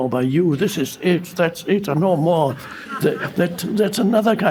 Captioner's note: audience laughing